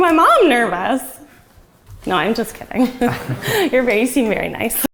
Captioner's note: laughs